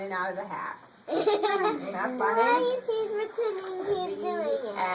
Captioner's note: children's laughter in background